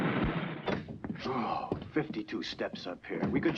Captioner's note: grunts